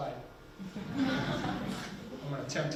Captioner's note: people laughing